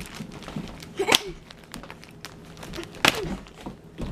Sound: claps

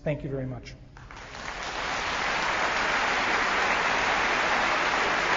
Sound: audience applauding

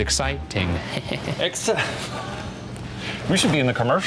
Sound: laughs

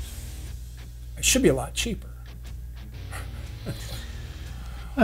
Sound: snickers

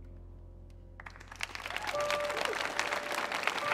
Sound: audience applauding; gentle piano music

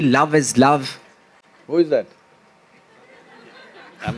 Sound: few laugh

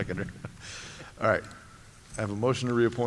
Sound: laughter

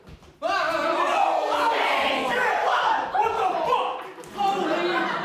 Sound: New Yorkers cry out in fear

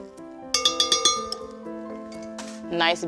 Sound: glass clanging

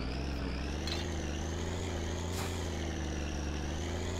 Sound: engine accelerates, straining

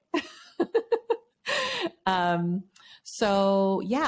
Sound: laughing

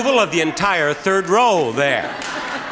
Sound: laughing

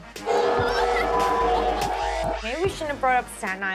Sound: crowd booing

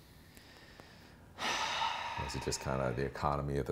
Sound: sighs

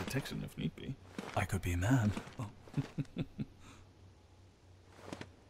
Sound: chuckle

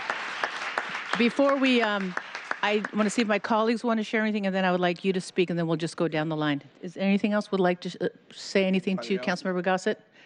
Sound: applause

